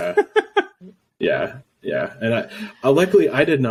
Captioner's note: laughing